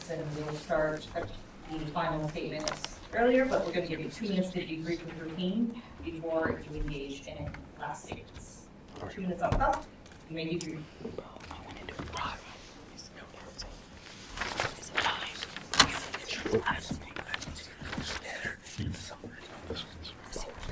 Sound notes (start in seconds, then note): 11.8 students whisper; 14.9 papers rustle; 14.9 students whisper